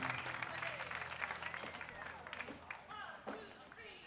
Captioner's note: applause